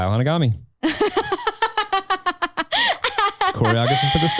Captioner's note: chuckles